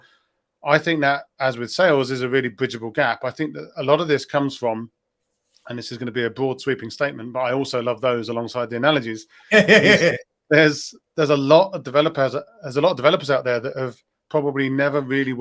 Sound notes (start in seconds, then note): 9.5 chuckles